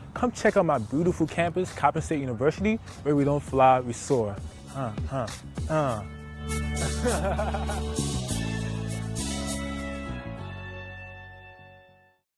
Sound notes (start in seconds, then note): 6.8 laughter